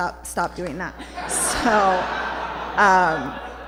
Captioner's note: laughter